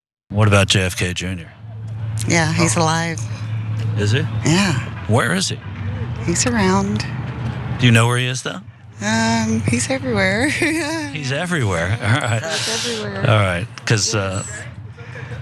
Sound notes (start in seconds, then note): 9.6 laugh